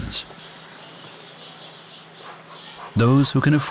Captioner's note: birds twittering